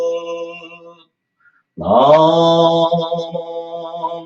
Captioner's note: Chanting of Junirai